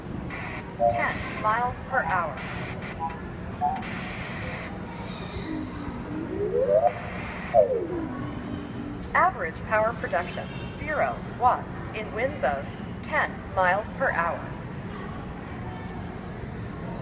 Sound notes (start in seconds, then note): 3.6 static noises and tones; 5.5 rising tone